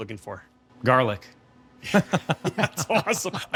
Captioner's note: laughs